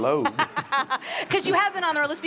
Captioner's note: laughs